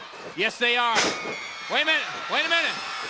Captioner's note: floor banging